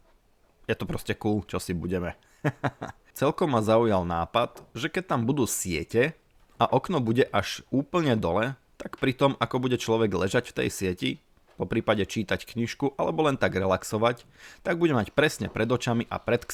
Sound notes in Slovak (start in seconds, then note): 2.3 smiech